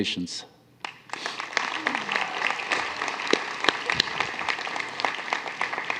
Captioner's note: applause